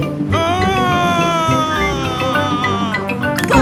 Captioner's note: screaming